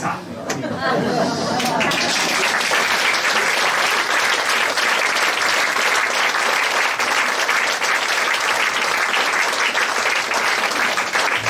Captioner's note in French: Applaudissements